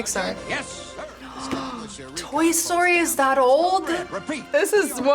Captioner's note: gasps